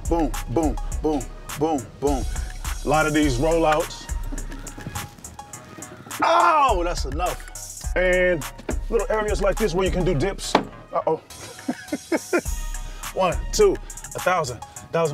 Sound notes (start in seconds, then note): 6.3 groans; 11.3 laughs